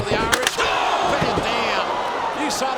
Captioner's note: steel rattling